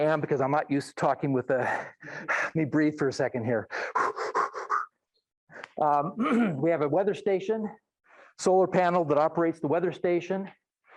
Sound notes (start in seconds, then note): 3.6 breathing heavily; 6.1 clears throat